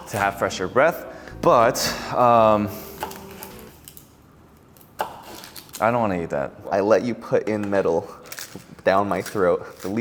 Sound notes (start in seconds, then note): 1.8 sighing; 2.7 knife chopping through onion